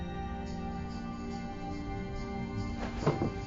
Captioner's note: rattling